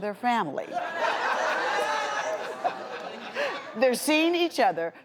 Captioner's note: audience laughs